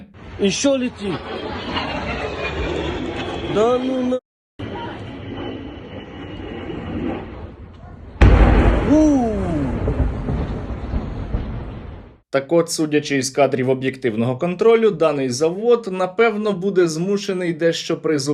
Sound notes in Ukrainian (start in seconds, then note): 4.5 звук пролітаючої ракети; 8.0 вибух